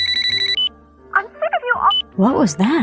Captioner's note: phone